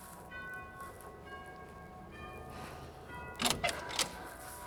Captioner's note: doorbell chiming